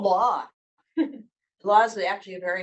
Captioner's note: chuckles